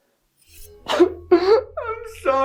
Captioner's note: knife clangs; Greg crying